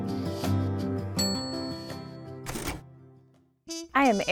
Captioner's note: bell rings; typewriter rattles